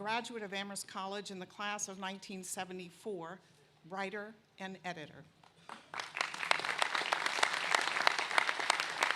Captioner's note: applause